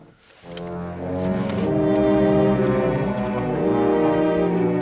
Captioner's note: line buzzing continues